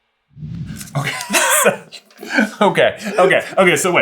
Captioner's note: both burst into giggles